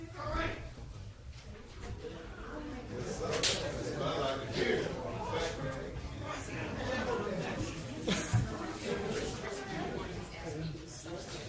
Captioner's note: gallery murmuring